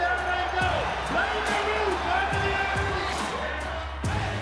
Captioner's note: crowd cheering